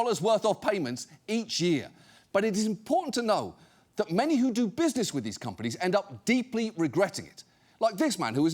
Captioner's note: none